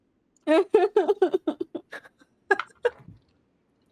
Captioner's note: cries